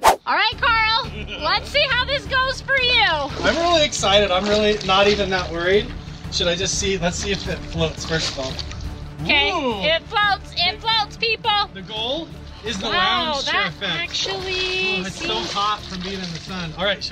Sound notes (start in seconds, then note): 14.1 splashing